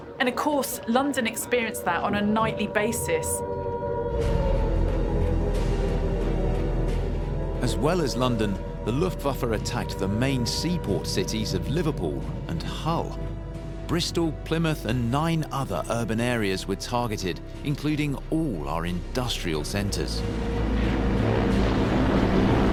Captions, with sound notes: And of course, London experienced that on a nightly basis, (siren) (dramatic music) As well as London. The Luft Buffer attacked the main seaport cities of Liverpool and Hull, Bristol, Plymouth, and nine other urban areas with targeted, including all our industrial centers.